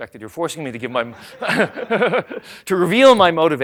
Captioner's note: laughter